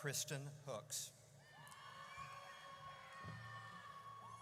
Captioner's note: audience cheers